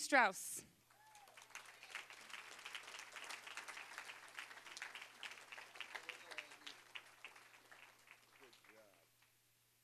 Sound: applause

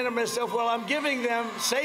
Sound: cheers and applause

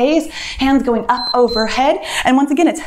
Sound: timer beeps

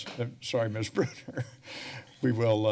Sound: laughs

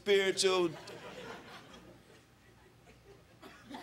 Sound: crowd laughing

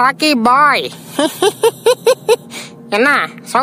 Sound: laughter

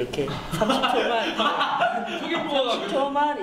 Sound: laugh

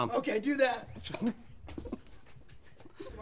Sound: laughter

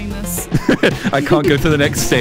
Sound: laughs

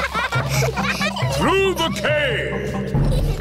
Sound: echoing

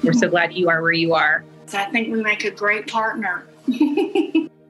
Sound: laughs

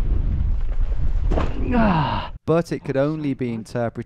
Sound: groans; voiceover

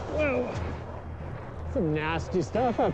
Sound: grunting

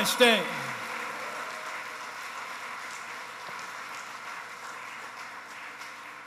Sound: applause

